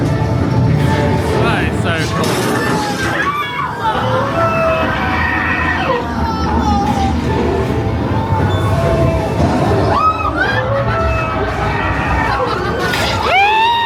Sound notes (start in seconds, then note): 2.5 guests screaming; 2.5 spooky music; 11.0 guest laughing; 11.0 spooky music